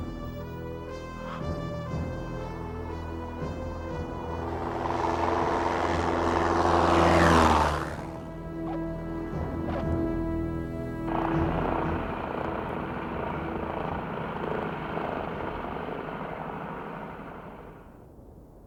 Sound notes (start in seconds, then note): 4.5 plane zooming; 11.2 plane buzzing